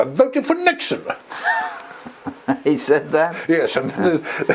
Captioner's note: laugh